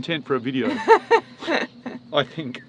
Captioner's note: laughing